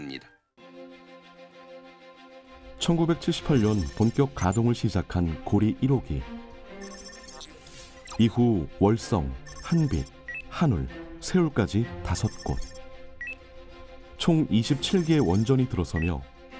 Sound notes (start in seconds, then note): 4.0 voiceover